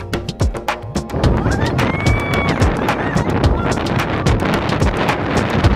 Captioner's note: scream